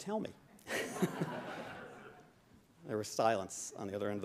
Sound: laughing

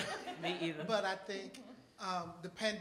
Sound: audience laughing

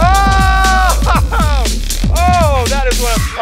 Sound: men cheering

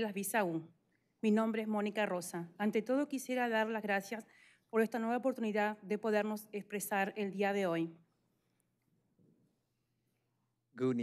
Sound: speaking spanish

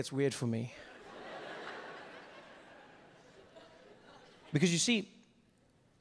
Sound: audience laughing

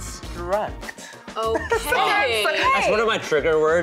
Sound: laughing

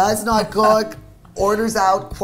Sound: laughing

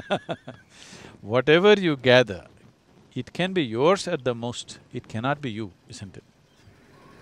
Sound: laughs

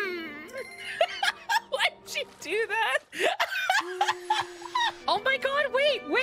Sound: Penny Mimicks “Mmmm”; laughter

